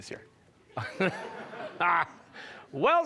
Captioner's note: laughter